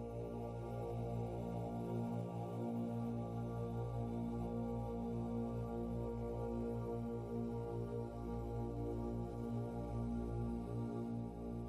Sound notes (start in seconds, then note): none